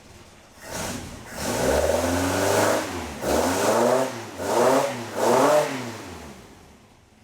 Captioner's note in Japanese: エンジン音